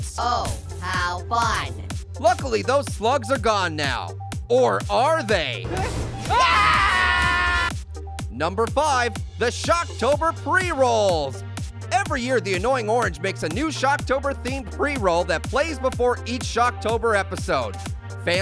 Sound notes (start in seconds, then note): 6.2 characters screaming